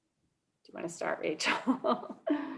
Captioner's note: laugh